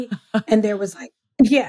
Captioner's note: laughs